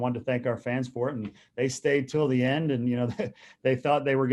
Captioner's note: chuckles